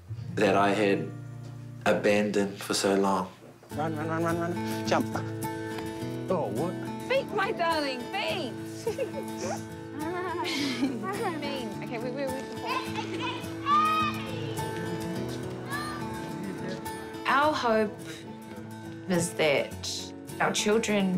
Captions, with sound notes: that I had abandoned for so long. Run, run, run, run, run. Jump. Oh, what? Feet, my darling. Feet. (LIGHT-HEARTED MUSIC) (BOYS SHOUT) Our hope is that our children